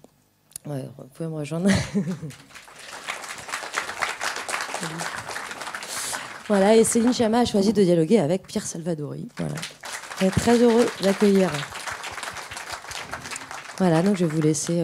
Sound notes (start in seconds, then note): 4.3 applause and Céline Sciamma arriving on stage